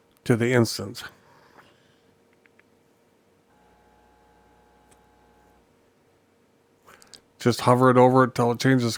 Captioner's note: silence